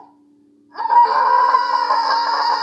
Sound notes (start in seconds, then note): 0.7 more agony filled screaming